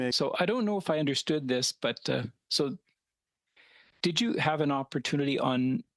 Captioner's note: speaking French